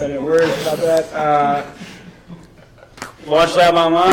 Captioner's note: laughs